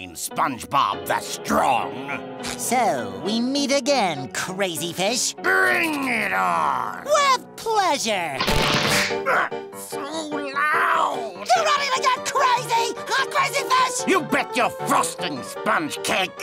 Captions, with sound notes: SpongeBob The Strong. So we meet again, Krazyfish. Bring it on. With pleasure. [cracking knuckles] [grunting] So loud. You ready to get crazy, huh, Crazyfish? You bet your frosting Sponge-cake.